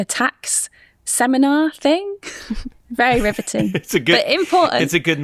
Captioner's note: chuckles